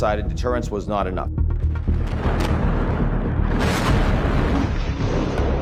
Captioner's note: explosions booming